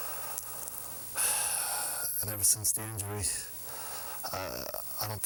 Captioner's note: sighing